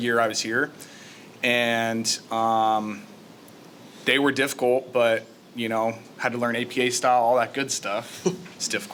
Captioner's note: chuckle